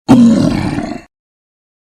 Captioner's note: troll growling